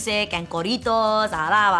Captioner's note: speaks in foreign language